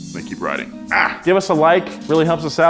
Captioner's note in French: grognements